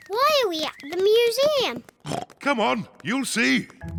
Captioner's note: oinks